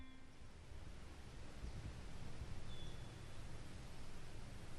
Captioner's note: wind sighing and birds chirping